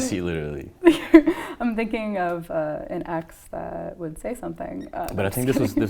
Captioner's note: laughs